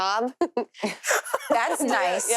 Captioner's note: laughs